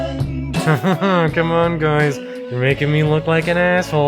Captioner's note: laughs